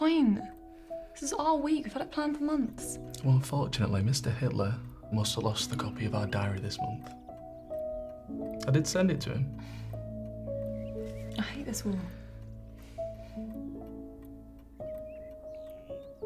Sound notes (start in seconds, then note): 9.6 Jane scoffs; 12.2 both sigh; 13.5 gentle music